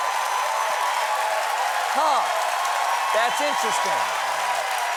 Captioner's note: cheers and applause